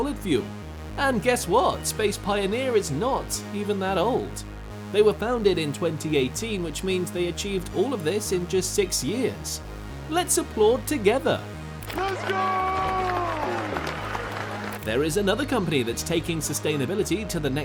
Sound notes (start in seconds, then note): 11.9 applaud sound effect here